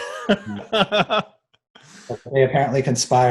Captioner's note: laughing